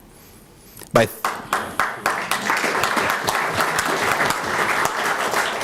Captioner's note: applause